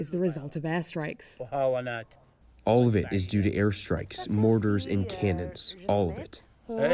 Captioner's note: through translator